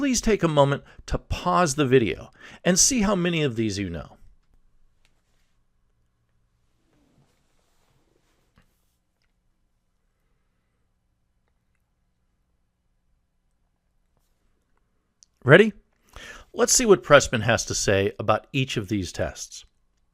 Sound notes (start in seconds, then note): 4.3 pause